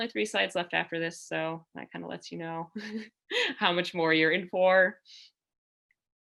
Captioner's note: laughter